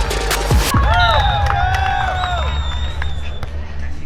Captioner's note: crowd cheering